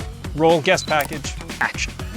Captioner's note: audio chirps